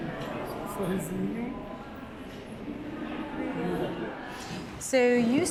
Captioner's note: chatter, people talking